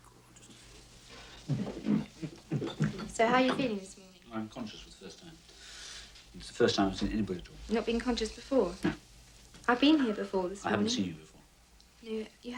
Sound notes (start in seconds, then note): 1.1 bottles clank, chair scrapes